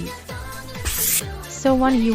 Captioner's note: hand Wipe Noise